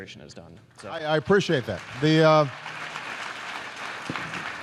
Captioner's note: applause